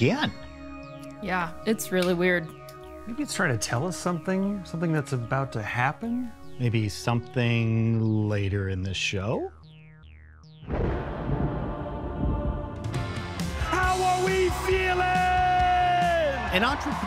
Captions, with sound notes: - There it is again. - Yeah, it's really weird. - Maybe he's trying to tell us something, something that's about to happen. - Maybe something later in the show? (thunder and ominous music) (upbeat music) - How are we feeling?